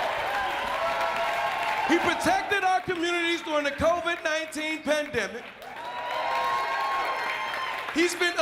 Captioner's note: applause